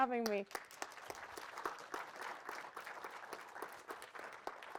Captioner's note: audience clapping